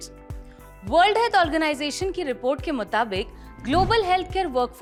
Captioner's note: speaking hindi